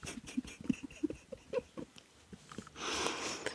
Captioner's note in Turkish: kahkaha